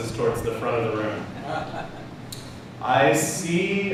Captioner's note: laughter